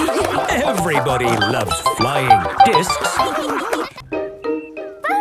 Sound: snorting and laughter; laughter

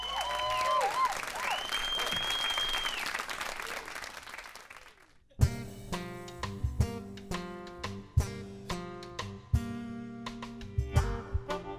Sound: applause

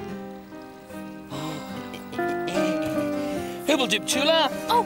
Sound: Tula sighs

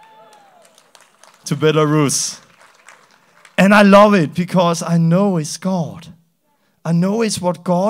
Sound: applause

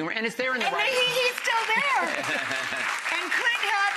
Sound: audience claps

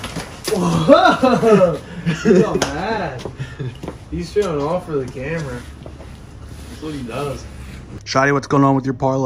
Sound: laughter

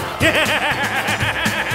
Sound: laughter

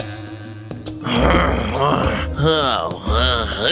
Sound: grumbles

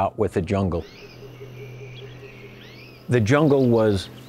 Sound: birds chirping

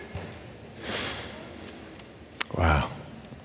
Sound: exhales

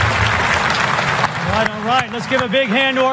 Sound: applause

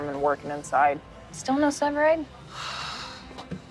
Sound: sighs

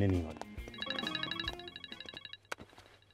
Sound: phone ringing

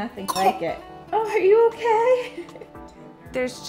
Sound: baby coughs

